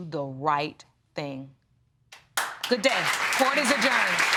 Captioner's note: applause